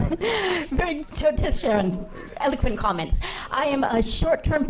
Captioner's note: laughing